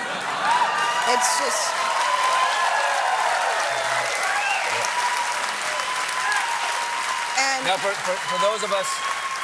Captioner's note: cheers and applause